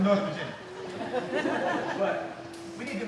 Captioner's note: laughing